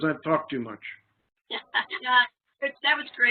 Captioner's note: laughing